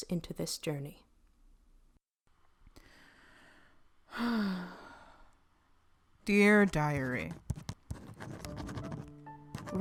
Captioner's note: SFX: pen on paper, faint sound of dust settling